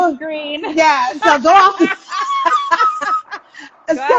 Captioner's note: laughing